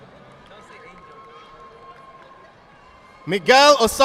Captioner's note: audience applauding